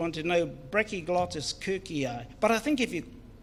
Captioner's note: speaks in foreign language